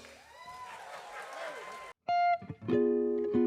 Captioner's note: audience cheering